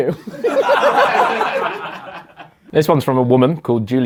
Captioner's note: laughs; audience laughs